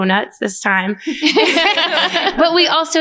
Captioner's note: laughter